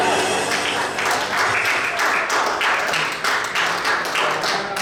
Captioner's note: audience applauds; audience chuckles